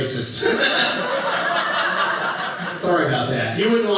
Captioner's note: audience laughing